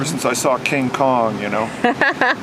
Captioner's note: laughter in background